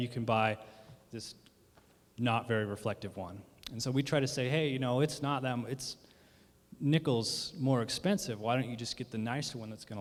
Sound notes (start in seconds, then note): none